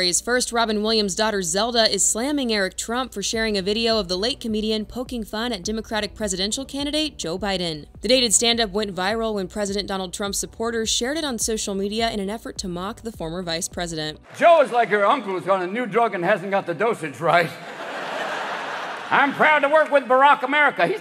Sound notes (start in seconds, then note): 18.1 audience laughing